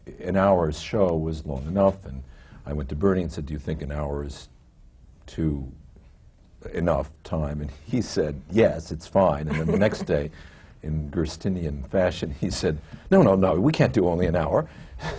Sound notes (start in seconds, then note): 7.3 laughs